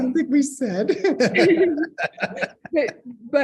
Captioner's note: laughs